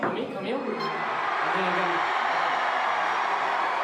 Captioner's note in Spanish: Gritos